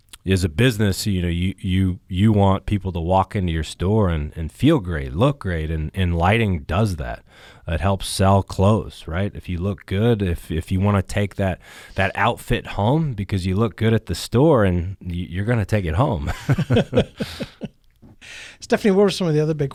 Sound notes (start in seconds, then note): 16.2 laughing